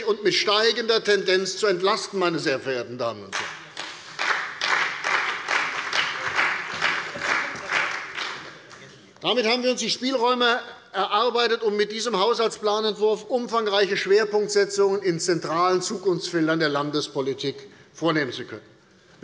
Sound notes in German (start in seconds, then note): 3.3 Beifall bei der CDU und dem BÜNDNIS 90/DIE GRÜNEN